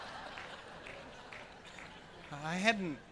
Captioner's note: laughing